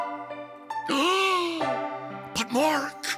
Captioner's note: Pyramus gasps